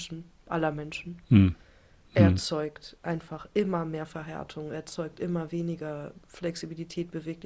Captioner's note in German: räuspern